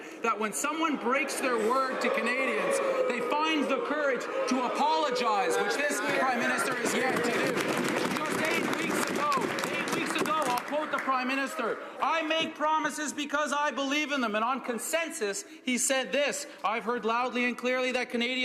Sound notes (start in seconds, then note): 11.9 some Applause